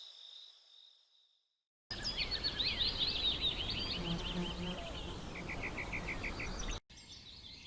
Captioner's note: birds chirping; insects buzzing